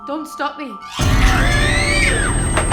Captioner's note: screaming